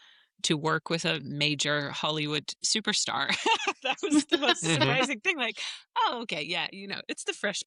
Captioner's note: laughter